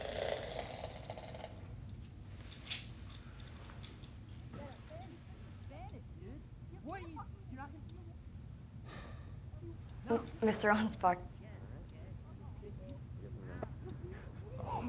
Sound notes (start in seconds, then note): 0.0 blinds buzzing; 8.9 Aunspach sighs